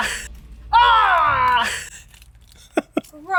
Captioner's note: laughs